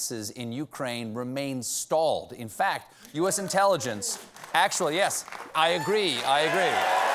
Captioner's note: applause